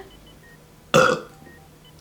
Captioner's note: burps